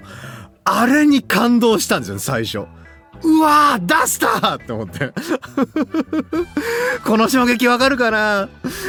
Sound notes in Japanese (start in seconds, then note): 5.2 笑い